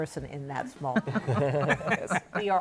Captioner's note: laughter